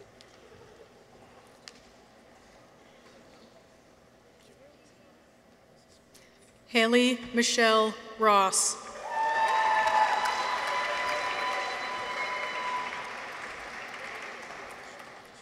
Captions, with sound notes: Haley Michelle Ross. -(people cheer) -(audience applauds)